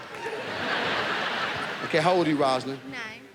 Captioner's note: audience applauds; audience laughs